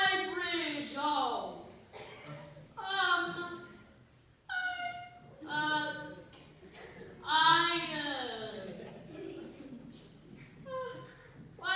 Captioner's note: laughter